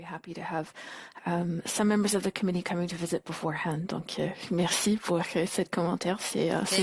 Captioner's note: speaking French